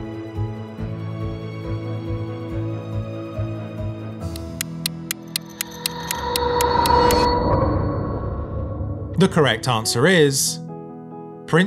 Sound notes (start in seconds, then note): 4.4 clock ticking; 6.6 dramatic music